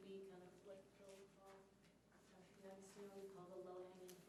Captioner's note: speaking faintly